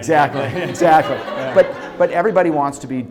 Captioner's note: audience laughing